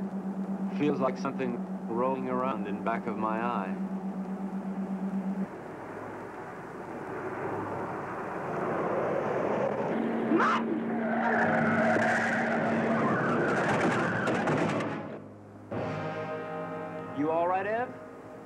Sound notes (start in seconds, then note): 11.5 tires squealing; 15.6 dramatic music